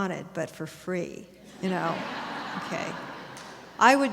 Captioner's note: audience laughter